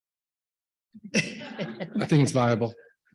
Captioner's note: audience laughs